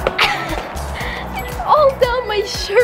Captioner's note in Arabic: السعال